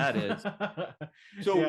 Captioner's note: laughs